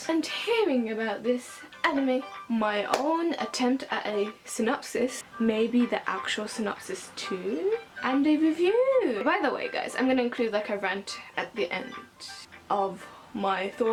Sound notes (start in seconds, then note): 2.9 claps